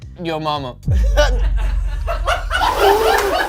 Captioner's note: scoffs; crew laughs